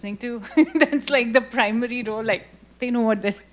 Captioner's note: laughs